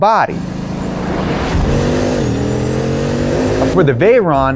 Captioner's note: engine revving